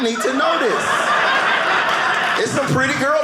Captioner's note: audience laughing